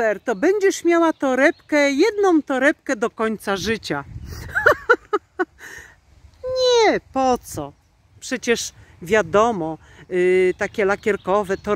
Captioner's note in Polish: śmiech